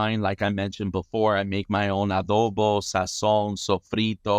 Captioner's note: speaks in foreign language